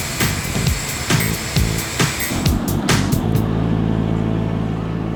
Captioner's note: beeping